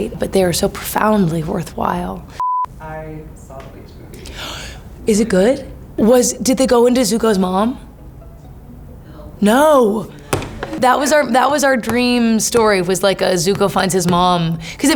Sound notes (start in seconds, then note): 2.4 beeps; 4.2 Maya gasps